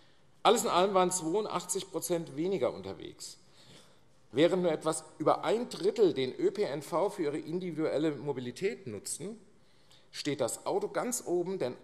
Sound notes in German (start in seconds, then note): none